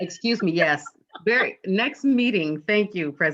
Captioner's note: laughter